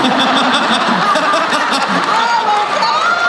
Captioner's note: laughing